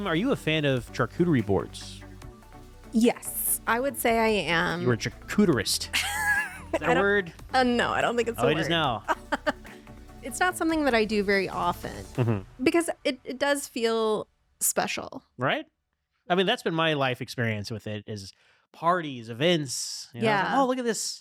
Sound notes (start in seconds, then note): 8.4 laughing